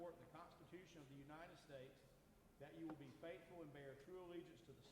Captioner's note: none